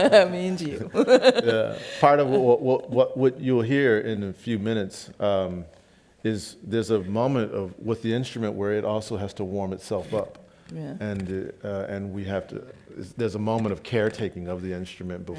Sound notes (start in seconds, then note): 0.9 laughs